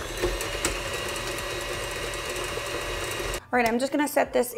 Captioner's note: mixer whirring